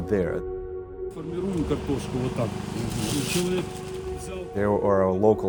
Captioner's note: man speaking Ukrainian